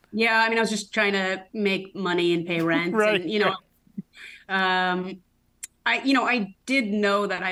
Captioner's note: laughs